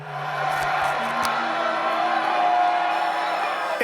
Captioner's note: cheering